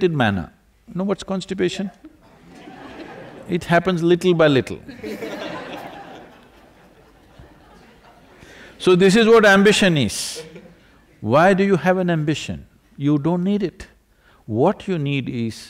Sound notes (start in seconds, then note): 2.1 few laugh; 4.8 laughter